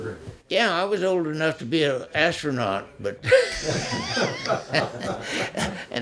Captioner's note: laughs